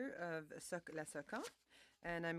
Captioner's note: speaking French